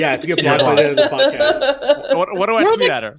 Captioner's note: laughing